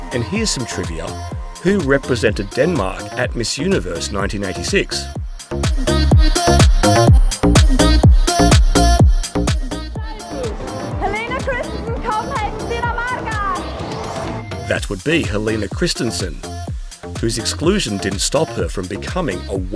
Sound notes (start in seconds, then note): 13.2 speaking Danish